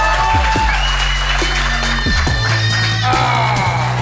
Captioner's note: crowd cheering